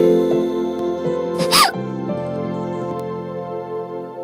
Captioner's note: cries